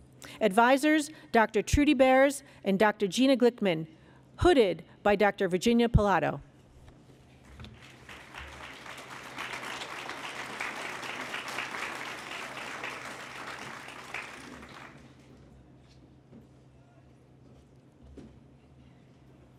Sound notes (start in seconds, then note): 7.6 applause